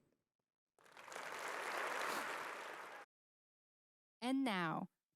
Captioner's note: audience applauding